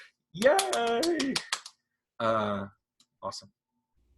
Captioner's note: applause